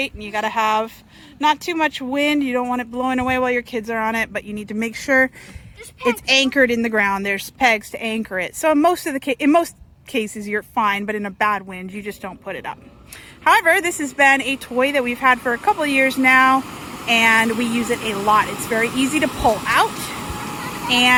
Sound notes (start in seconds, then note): 18.1 fan blows